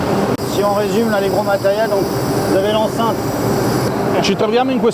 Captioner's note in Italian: suoni scientifici